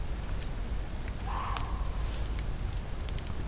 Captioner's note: bark